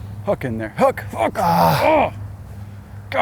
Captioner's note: groaning